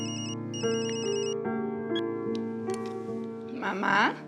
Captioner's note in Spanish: suena el celular